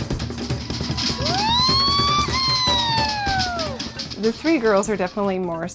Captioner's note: polynesian drumming; yelling